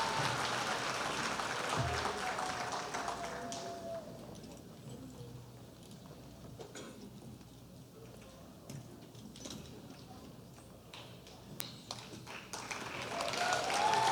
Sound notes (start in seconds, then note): 7.8 applause; 12.5 cheers and applause